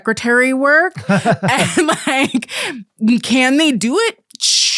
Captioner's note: laughs